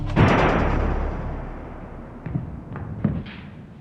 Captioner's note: gun fires